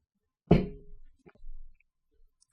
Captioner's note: bottle slams